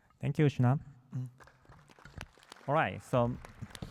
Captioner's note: applause